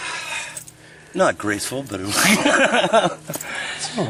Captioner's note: laughter